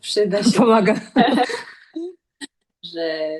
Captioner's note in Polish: śmiech